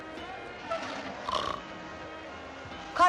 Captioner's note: snoring